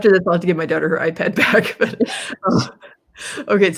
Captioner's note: laughs